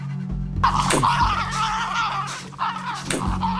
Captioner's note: growling